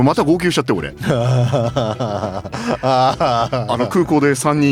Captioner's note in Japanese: 笑い